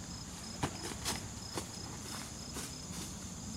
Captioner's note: stomping footsteps on leaves